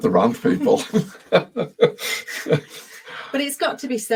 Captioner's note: chuckling